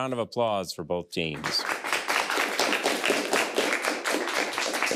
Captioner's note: people clapping